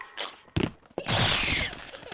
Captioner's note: death squeaks